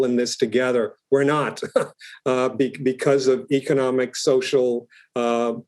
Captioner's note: laugh